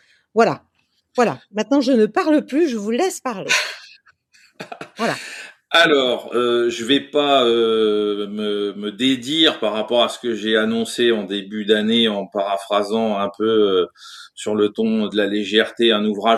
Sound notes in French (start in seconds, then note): 4.4 Rires